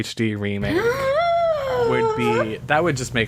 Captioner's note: gasps